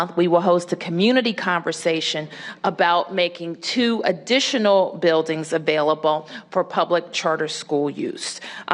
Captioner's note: none